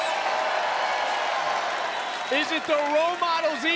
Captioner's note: crowd cheers